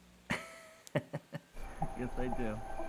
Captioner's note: Nathan laughs